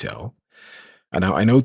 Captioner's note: breathes in